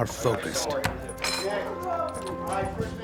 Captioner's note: voiceover